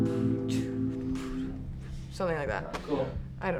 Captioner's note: murmurs